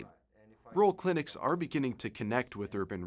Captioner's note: voiceover